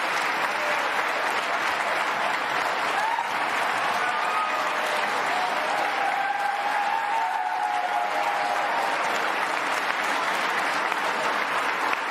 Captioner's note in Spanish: aplausos